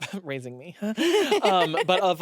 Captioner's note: laughs